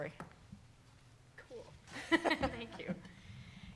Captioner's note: laughing